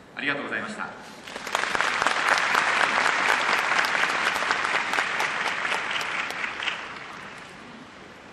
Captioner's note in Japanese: 拍手